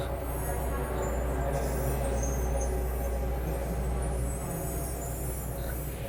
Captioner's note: ominous music; people talking